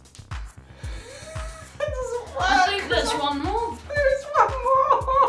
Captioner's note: laughing